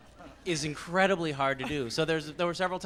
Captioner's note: laughs